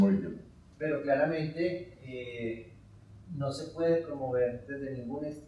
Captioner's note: speaking in Spanish